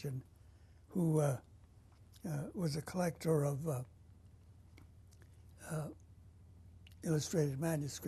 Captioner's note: pauses for 3 seconds